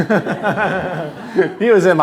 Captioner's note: laughter